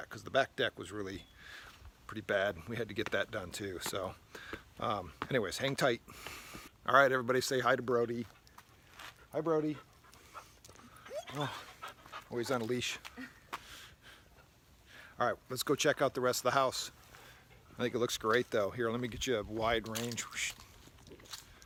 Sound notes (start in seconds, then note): 10.9 dog whines